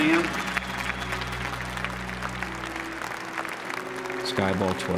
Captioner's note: applause